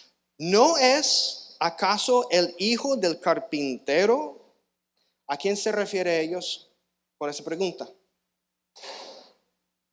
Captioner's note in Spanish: resoplido